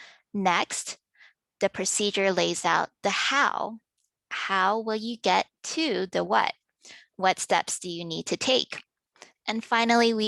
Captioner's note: click